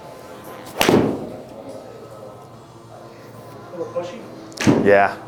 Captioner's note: thumping sound